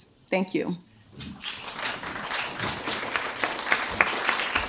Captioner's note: applause